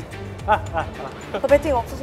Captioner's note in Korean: ㅎㅎㅎㅎ